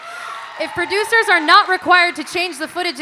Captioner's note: audience cheering and applauding